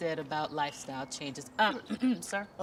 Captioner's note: Beverly clears throat